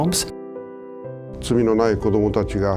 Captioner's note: non-english speech